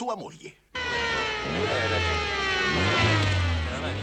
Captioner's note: sirens